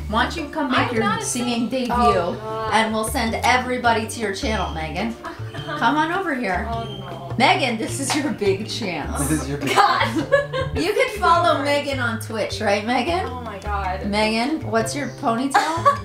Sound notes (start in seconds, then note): 5.1 laughs; 9.2 laughs